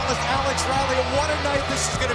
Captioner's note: crowd cheering